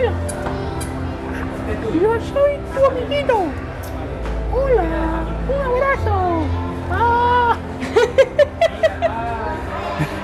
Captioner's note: laughter